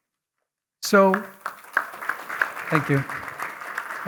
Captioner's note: applause